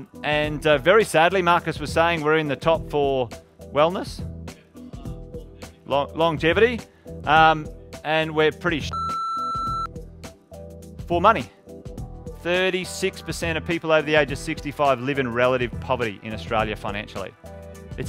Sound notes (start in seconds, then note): 8.9 beeping